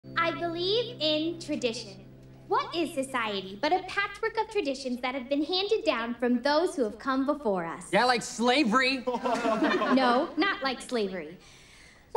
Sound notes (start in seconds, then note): 9.0 laughter